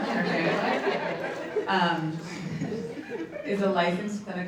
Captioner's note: audience laughs